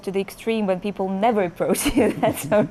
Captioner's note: laughs